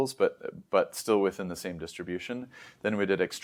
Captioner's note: inhales